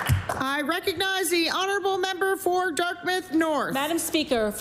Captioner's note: applause